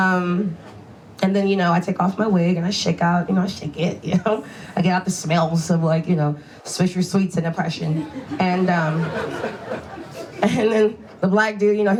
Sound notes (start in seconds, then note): 7.9 audience laughs